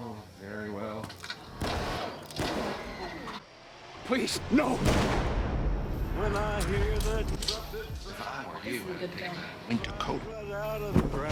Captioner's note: gunshots; gunshot